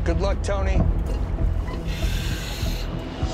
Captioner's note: inhales